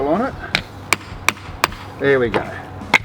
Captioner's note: hammer clacks